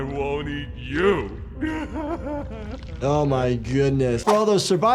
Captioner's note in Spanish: Doey se ríe